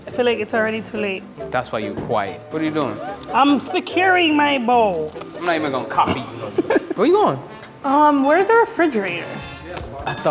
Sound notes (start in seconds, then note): 6.3 laughs